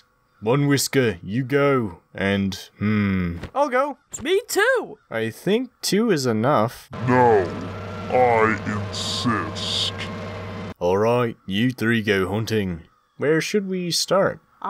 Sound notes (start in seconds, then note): 7.9 deep voice